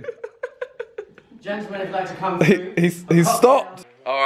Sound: laughing

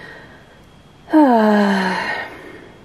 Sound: annoyed sigh

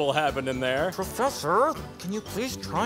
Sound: hushed

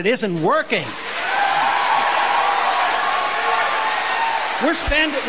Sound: audience cheers and applause

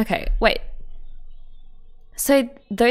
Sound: none

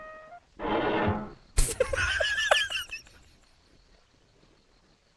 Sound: laughs intensely

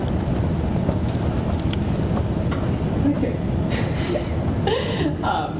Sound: laugh

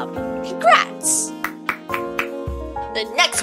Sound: clapping

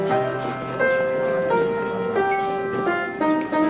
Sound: crowd chattering

